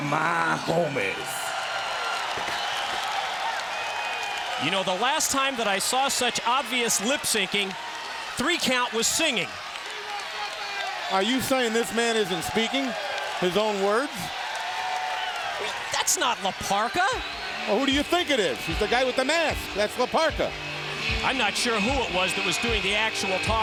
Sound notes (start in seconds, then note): 4.6 crowd cheering; 14.9 crowd cheering